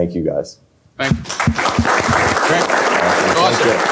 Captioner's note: applause